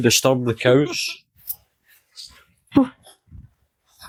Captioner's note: unicorn laughs